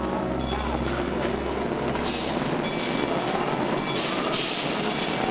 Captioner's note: machinery rumbling